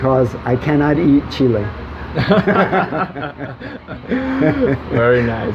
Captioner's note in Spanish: risas